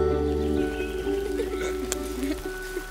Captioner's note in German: Kichern